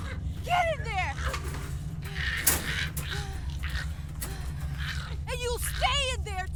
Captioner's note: Giree snarling; Lock panting